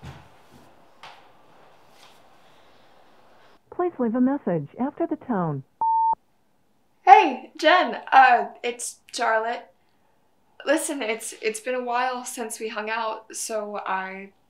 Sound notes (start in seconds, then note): 5.8 beep